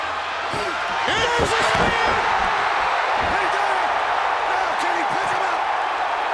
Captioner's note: crowd cheering continues; crowd cheering drowns out commentators